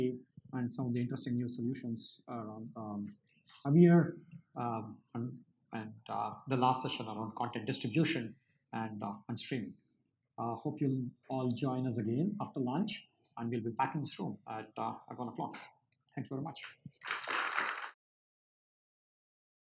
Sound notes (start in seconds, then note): 17.0 applause